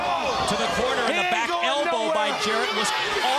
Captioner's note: crowd cheering